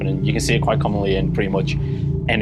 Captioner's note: none